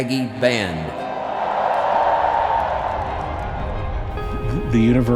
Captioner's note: crowd cheering